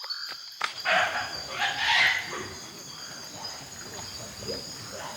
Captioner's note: peccaries grunting